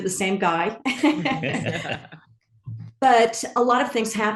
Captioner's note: all laugh